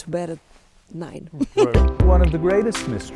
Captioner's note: laughs